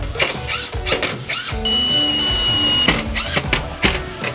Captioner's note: machines whirring